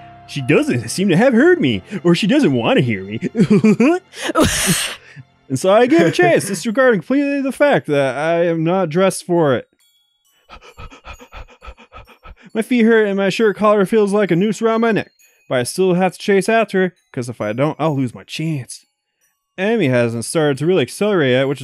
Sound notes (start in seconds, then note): 3.1 laugh; 5.8 chuckles; 10.5 starts panting